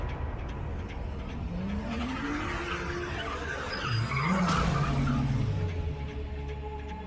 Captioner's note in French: musique tendue; le moteur de la voiture rugit; crissement des pneus de voiture